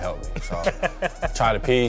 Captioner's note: laughing